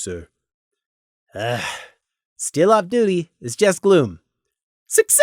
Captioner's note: sigh